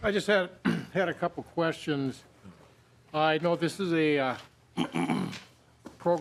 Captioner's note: laughing